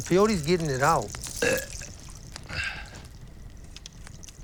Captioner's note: belches